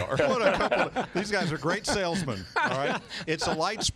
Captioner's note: laughter